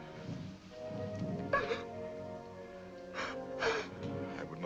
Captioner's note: weeps